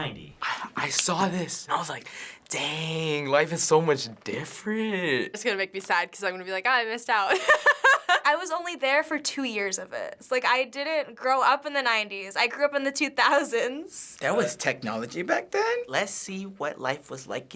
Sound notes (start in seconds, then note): 7.3 laughs